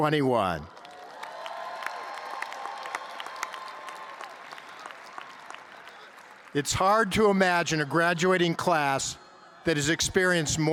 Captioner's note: cheers and applause